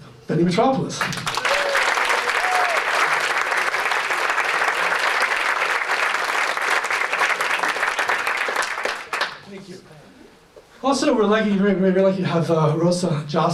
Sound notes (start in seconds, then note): 1.0 applause